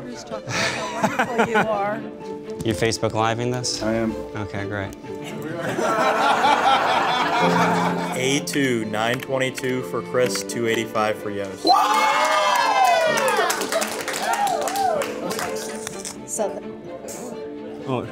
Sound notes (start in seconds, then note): 2.2 laughing; 5.2 laughing; 11.6 cheering and applauding